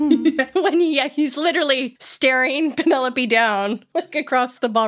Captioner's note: laughing